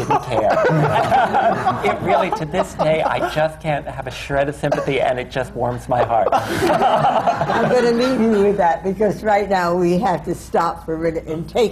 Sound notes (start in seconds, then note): 0.0 laughter; 5.7 laughter